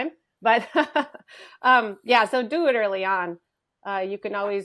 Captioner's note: laughs